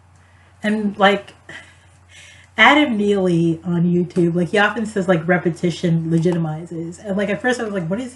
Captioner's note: laughs